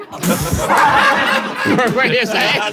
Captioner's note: people in room laughing